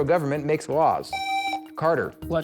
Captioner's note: buzzer